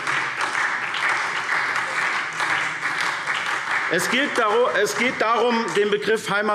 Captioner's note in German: Beifall SPD